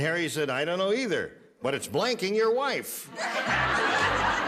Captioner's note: laughter